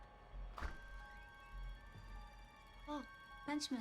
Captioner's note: door creaks